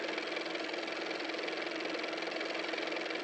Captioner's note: car motor